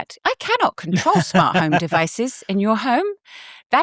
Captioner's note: chuckles